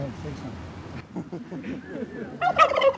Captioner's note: laughter; turkeys gobble